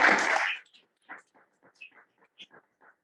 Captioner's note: applause